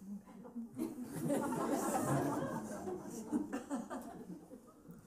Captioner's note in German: Lachen